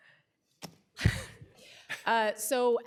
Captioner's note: laughter